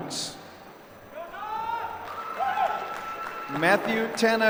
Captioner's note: applause